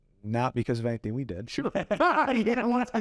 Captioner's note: both laugh